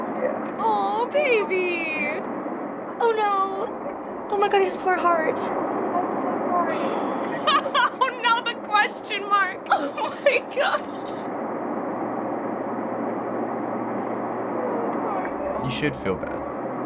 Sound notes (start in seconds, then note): 6.7 laughing